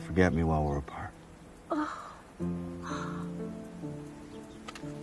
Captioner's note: gasping